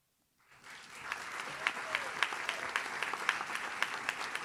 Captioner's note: audience claps